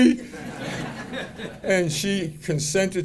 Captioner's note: audience laughing